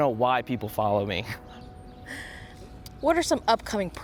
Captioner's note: both laugh